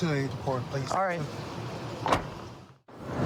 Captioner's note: car door closes